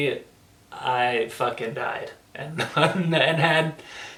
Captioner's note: laughs